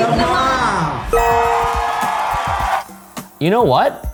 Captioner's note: crowd cheering; bell dinging